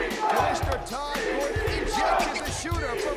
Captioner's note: crowd cheering